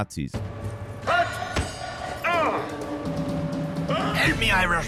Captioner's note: characters yelling